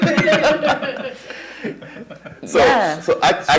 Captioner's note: laughter